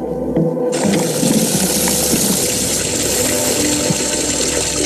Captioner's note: water running